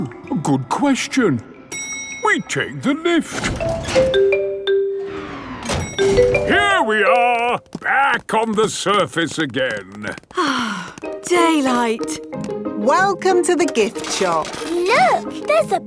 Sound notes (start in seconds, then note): 3.6 elevator dings; 10.3 sighs